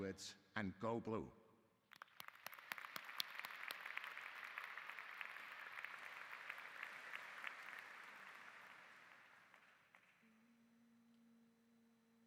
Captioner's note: applause